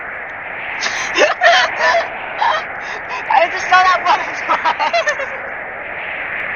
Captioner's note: laughs